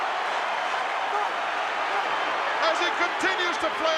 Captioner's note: crowd cheering